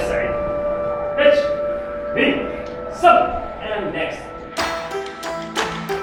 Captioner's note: speaking Japanese